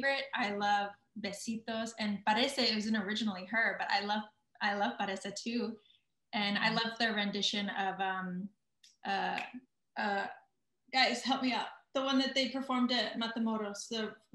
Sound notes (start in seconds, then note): 2.0 speaking in foreign language